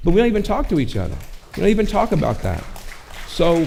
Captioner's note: audience clapping